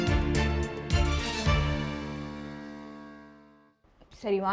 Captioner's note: echoes